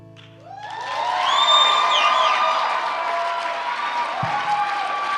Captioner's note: cheering